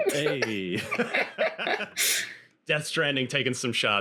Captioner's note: everyone laughing